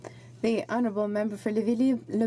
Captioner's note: speaking French